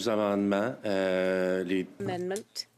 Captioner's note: speaking French